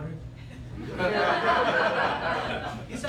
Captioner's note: laughter